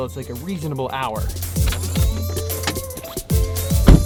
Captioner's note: turns key and shifts gears; car door closes and pop music